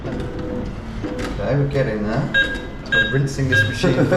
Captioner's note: ATM beeping